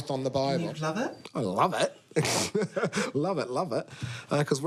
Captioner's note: laughs